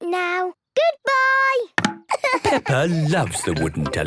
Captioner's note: laughing